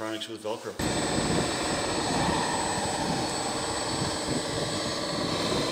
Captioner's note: roaring bulldozer engine